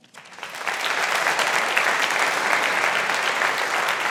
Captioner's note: audience applauding